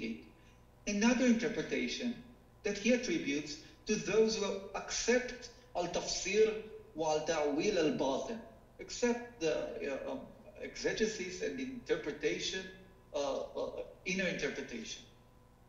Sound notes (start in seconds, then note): 4.8 speaking foreign language